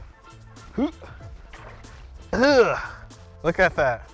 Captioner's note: grunting